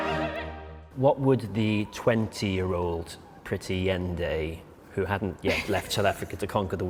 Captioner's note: laughter